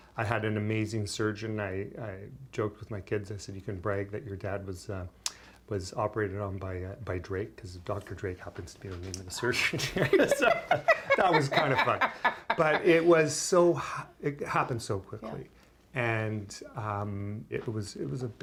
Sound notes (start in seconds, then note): 12.6 laughter